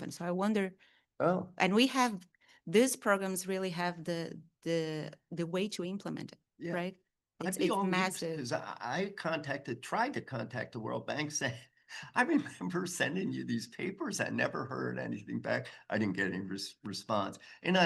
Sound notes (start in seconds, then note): 13.8 chuckles